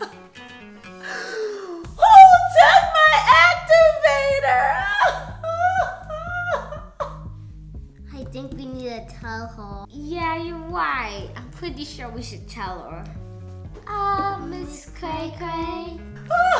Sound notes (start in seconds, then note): 1.0 sobs; 4.8 weeps loudly; 16.3 cries loudly